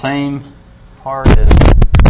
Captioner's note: hitting microphone